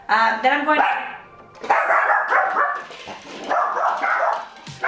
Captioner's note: dogs barking